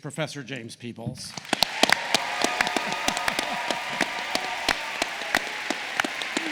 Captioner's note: applause